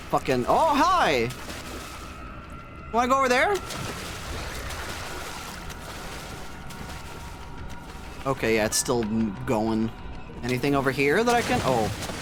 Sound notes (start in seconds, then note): 3.6 garbles and splashes; 6.8 mechanism ticking distantly; 12.0 near death splashing